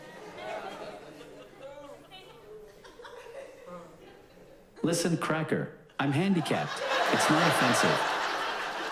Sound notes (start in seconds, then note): 0.1 scattered laughs; 4.8 text to speech